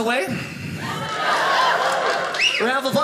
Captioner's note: audience cheers